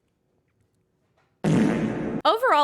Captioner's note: reverb fart